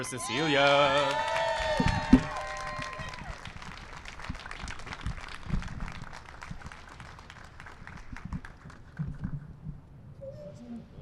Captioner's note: applause and cheering